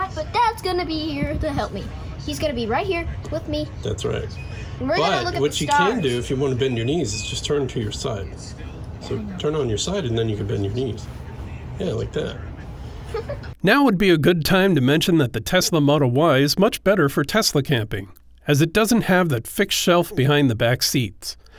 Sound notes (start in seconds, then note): 13.0 chuckles